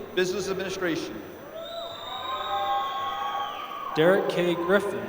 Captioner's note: applause